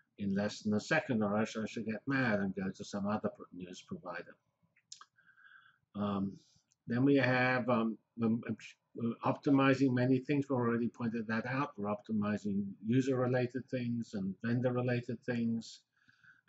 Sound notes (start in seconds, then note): 4.4 pause